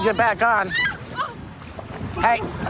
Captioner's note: screaming